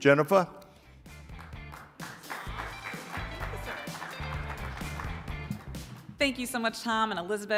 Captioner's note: upbeat music; audience applauding